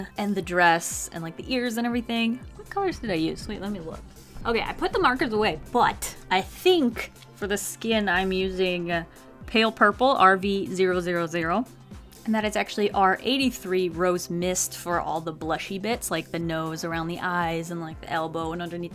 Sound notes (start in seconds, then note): 2.4 talking to herself